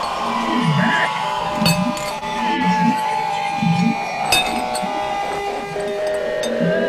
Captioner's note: screeching in distance